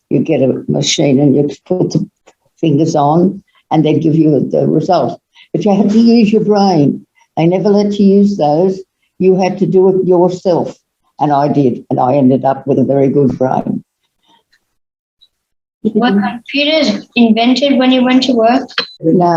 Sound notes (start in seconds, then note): 8.8 machines